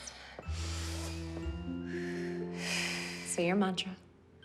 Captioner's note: breathing deeply